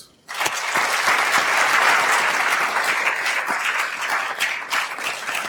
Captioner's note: attendees applauding